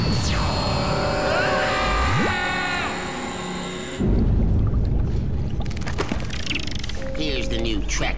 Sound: screams

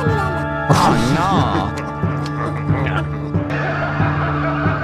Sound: munching; evil laughter

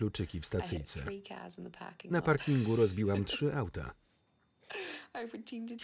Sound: laughs loudly

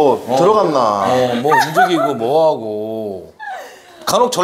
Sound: hahaha

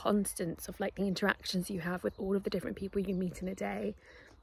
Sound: sound of birds chirping and footsteps on gravel

